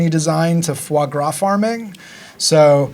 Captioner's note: speaking foreign language